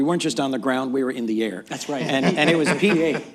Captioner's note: laughter